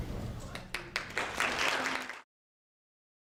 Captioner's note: applause